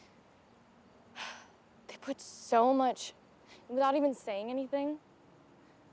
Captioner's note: sighs